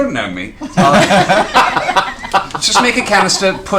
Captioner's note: laughter